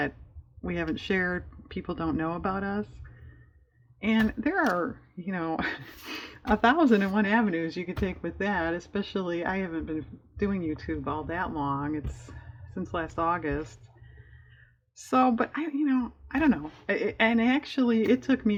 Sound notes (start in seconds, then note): 5.5 laughs